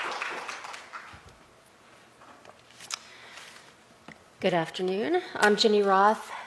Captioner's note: applause